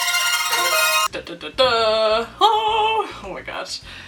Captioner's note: dramatic humming of theme